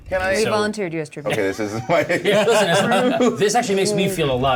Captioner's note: laughter